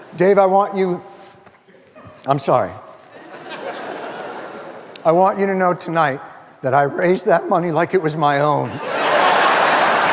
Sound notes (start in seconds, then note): 3.2 audience laughing